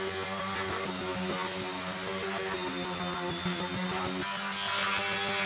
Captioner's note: sander sounds